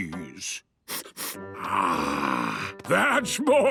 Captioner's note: sniffs